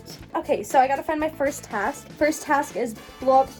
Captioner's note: whispering; in normal voice